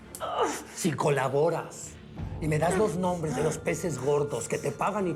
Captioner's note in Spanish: quejidos